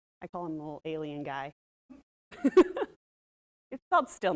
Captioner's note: laughs